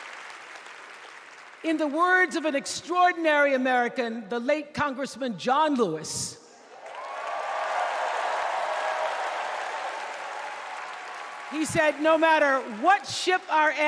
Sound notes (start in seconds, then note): 0.7 applause